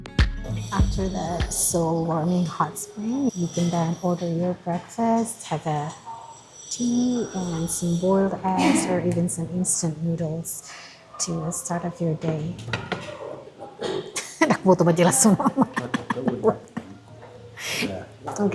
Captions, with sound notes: After the soul warming hot spring, you can then order your breakfast, have a tea and some boiled eggs or even some instant noodles to start off your day. [speaking in Bataknese]